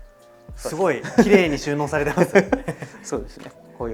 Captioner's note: laughs